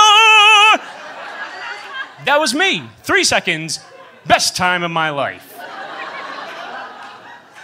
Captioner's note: laughter